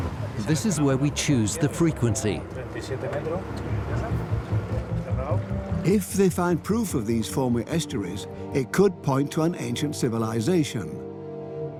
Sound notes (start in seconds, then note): 2.5 speaks in Spanish